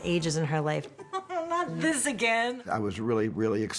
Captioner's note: chuckling